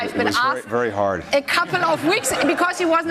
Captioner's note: laughter